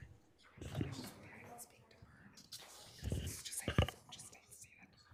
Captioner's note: regents chattering indistinctly